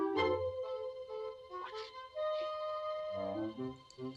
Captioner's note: whispering